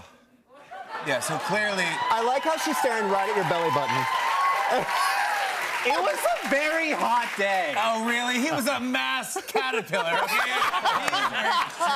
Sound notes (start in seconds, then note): 4.2 applause